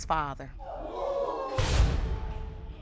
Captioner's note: audience exclaiming